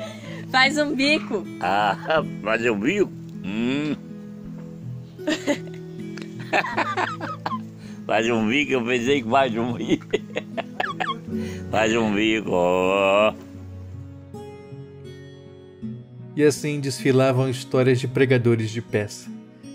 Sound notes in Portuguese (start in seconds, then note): 6.1 risos